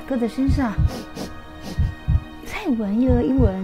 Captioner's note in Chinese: 嗅闻声